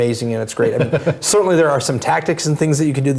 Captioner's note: laugh